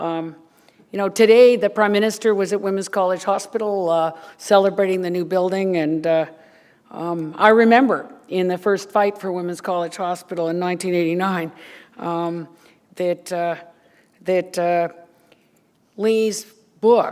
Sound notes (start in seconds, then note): none